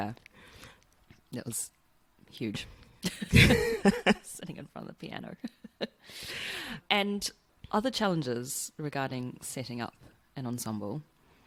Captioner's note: laughs